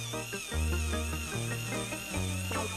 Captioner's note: drilling noise